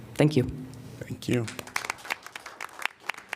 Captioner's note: applause